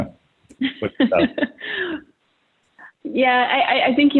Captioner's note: laughing